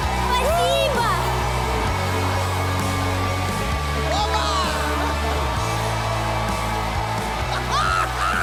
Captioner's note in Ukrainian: оплески